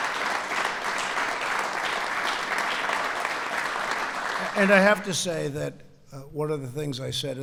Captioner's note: applause